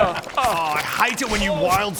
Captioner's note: aaah